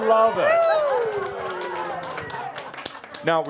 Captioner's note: audience applause